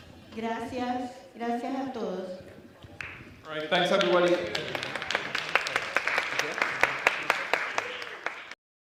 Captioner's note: applause